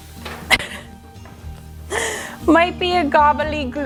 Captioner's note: laughs